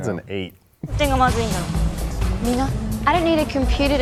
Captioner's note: speaking in foreign language